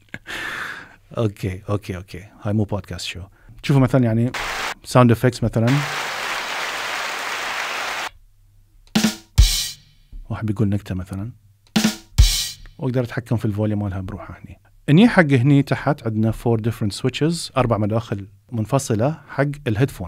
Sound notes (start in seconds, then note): 5.7 sound effects start playing; 11.7 drums